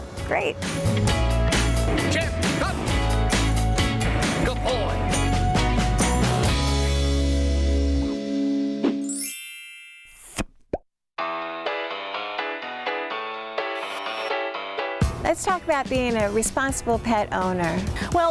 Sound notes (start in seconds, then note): 1.0 upbeat music; 5.7 upbeat music; 9.1 bell chimes; 11.2 playful music